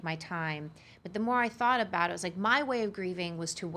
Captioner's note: none